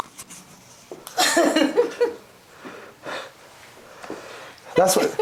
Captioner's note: woman laughs